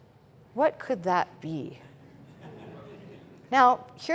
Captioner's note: laughter